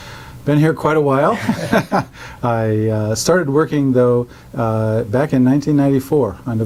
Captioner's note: laugh